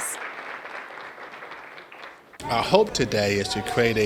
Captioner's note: attendees applaud